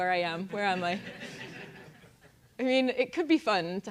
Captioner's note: laugh